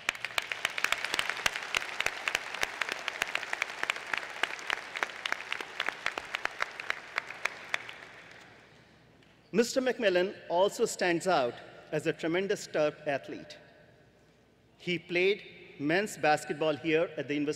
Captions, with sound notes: as the university’s first Rhodes Scholar. It took 40 years for a second Terp to be named a Rhodes Scholar. (Applause)